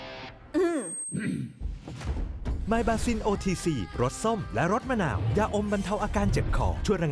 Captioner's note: clears throat